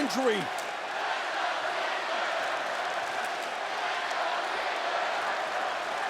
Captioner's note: audience applauding and chanting